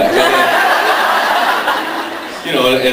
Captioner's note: laughs